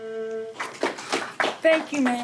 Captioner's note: applauding